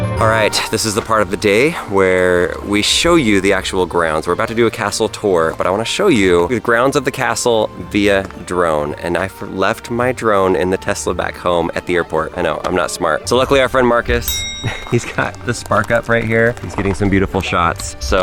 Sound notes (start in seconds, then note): 12.3 bell dings